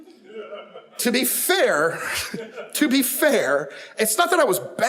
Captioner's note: audience chuckles